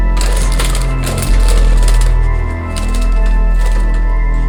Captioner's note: bird fluttering